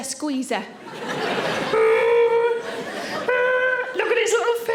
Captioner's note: audience laughing